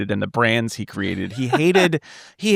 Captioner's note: laughing